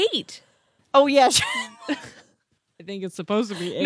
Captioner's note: laughs